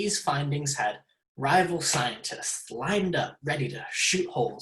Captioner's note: none